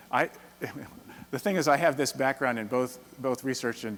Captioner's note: chuckles